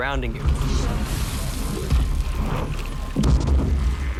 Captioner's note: eerie soundscape echoes, distorts